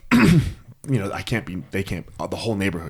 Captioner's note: clears throat